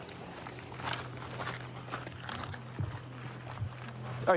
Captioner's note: footsteps crunching